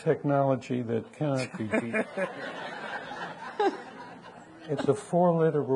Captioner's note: audience laughing